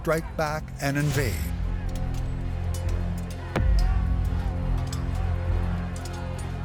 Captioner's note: clanging swords & indistinct shouting